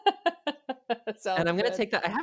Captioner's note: laughs